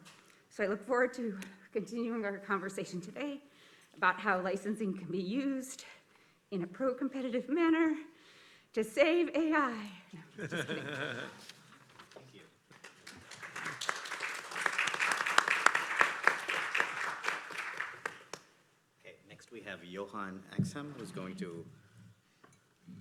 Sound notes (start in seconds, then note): 10.2 laughs; 12.7 applause